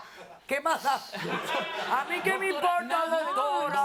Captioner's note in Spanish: Risas